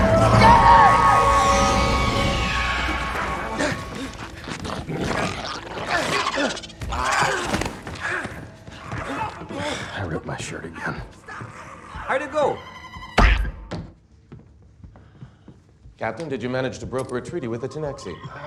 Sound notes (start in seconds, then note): 3.4 kirk panting; 5.6 grunts; 7.2 men grunting; 10.0 exhales